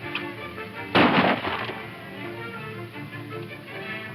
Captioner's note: gunshots